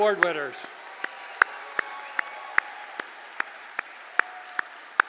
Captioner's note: applause